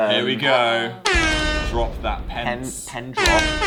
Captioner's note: air horn; air horn x2